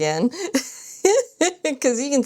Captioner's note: laughs